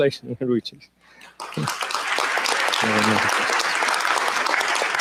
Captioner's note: applause